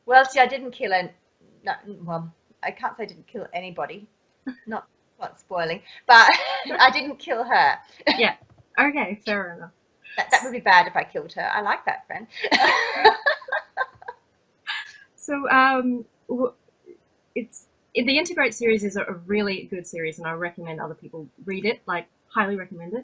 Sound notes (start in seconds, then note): 12.4 laughs